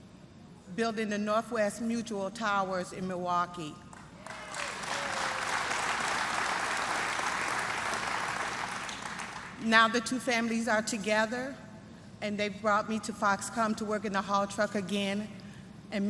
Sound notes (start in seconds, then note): 3.9 applause